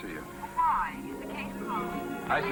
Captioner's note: on phone